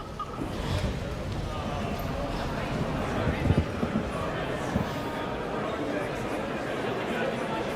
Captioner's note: audience members chattering indistinctly